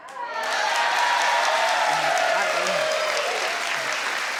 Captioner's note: audience cheers